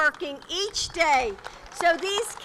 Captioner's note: applause